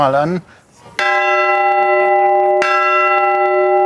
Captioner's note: resounding ringing of the bell